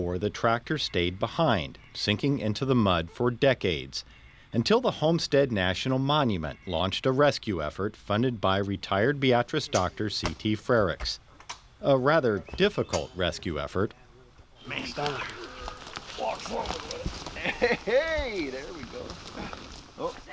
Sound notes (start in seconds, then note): 17.0 crunching grass